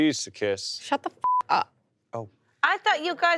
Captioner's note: beep